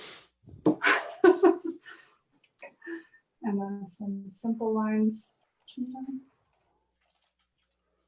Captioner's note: laughs